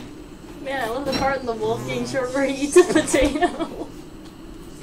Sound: laughs

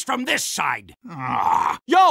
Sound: grumble

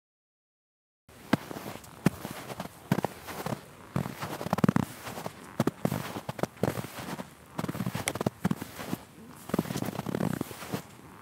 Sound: sound of steps in the snow

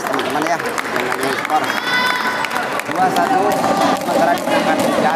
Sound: applause

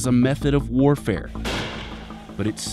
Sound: explosion

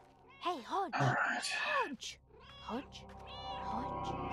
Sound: sighing; Hodge meowing

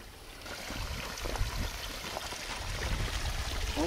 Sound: water trickling

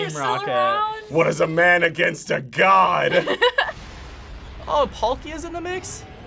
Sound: laughs

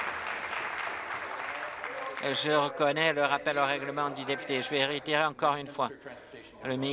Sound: applause

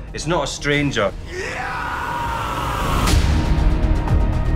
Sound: boy screaming

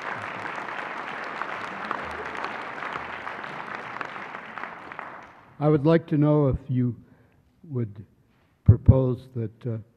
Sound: applause

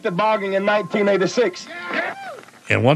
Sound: cheers

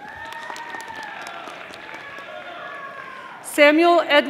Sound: audience applauding

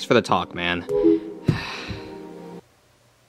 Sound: device dings

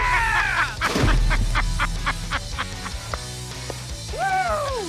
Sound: laughs; gunshot

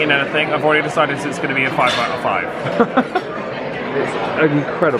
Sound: laughs

